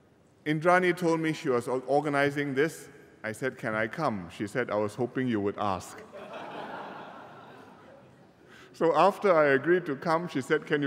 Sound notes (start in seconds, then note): 6.0 laughter